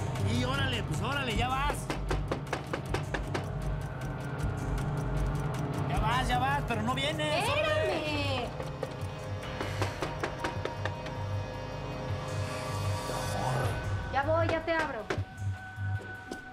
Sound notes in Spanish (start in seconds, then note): 1.4 toques en la puerta; 9.6 toques en la puerta